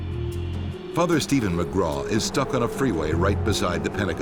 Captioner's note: voiceover